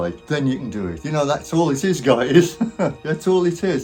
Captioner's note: laughs